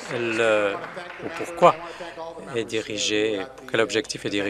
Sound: applause

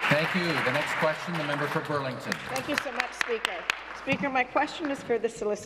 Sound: applause

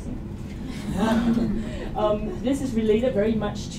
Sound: laughter

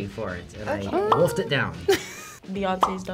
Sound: bubble pops; chuckles

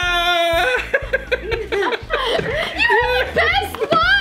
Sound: dad laughing

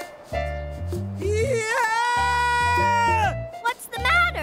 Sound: wail of panic

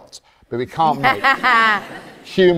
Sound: all laugh

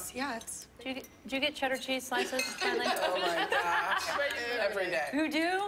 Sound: laughter

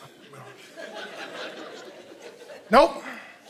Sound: congregation laughing

